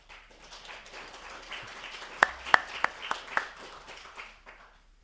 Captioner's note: attendees applauding